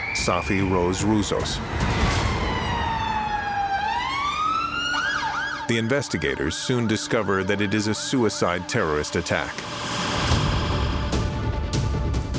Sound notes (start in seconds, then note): 2.8 sirens blaring; 9.8 suspenseful music